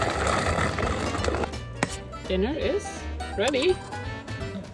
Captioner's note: packet whirring